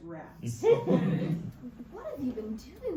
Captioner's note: audience laughs